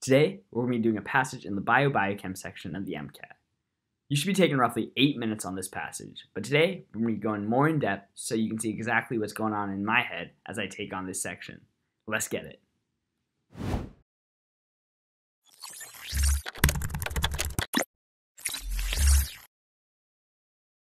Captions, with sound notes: Today, we'll be doing a passage in the bio-biochem section of the MCAT. You should be taking roughly eight minutes on this passage, but today, I'm going to be going more in depth, so you can see exactly what's going on in my head as I take on this section, let's get it. (air swooshing) (electricity zapping) (keyboard keys clicking)